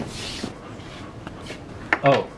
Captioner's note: Loki panting